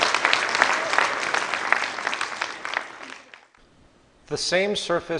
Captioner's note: applause